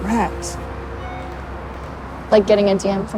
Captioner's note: phone alert